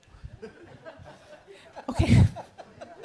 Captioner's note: all laughing